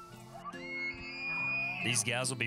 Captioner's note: elk bugling